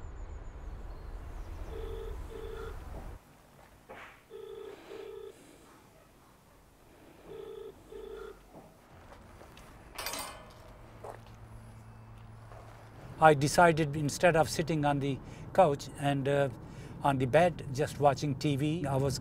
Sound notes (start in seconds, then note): 1.9 phone rings faintly; 7.2 phone rings faintly